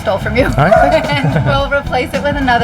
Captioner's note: laughing